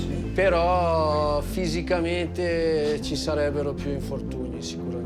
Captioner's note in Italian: parla in italiano